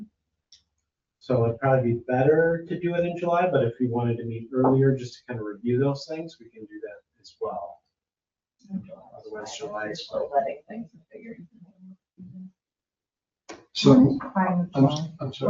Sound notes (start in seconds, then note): 10.5 speaks distantly